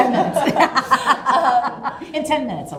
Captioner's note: laughs